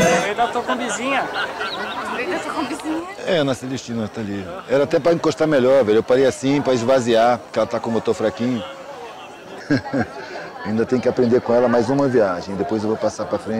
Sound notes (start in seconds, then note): 9.4 laughs